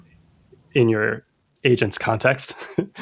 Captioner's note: laughter